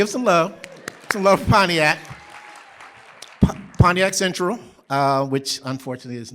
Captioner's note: applause